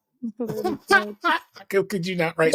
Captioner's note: laughing